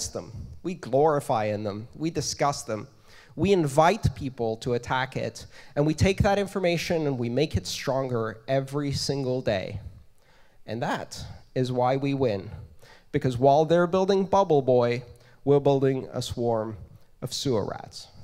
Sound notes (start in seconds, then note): 6.8 feedback